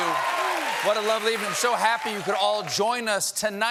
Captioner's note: cheers and applause